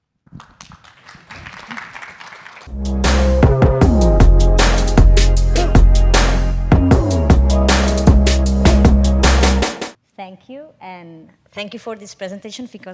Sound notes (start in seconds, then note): 0.4 audience applauding; 2.7 upbeat music